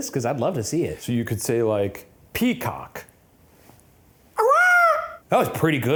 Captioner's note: imitates peacock